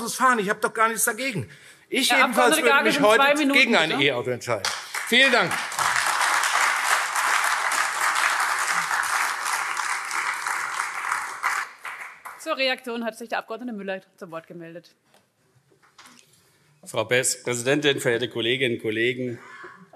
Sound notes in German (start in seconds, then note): 4.6 Beifall AfD